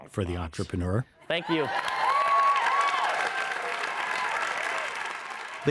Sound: audience applauds

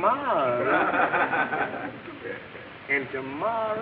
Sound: audience laughing

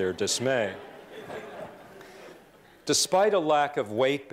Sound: laughter

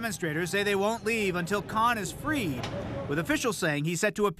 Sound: sirens

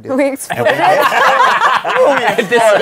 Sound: laughter

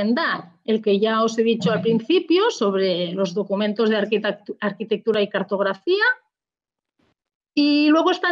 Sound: in Spanish

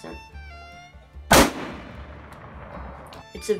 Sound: gunshot

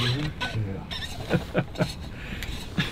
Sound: laughing

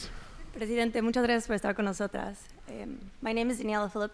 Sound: speaks in foreign language

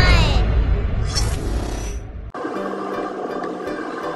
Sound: air whooshes; upbeat music

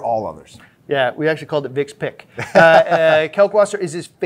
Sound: laughs

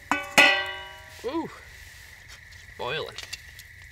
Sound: pot clanging

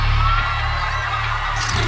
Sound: crowd cheering

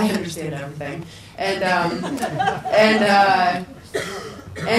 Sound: people laugh

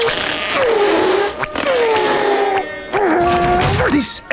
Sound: grunting

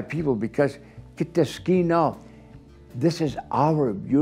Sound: speaking foreign language

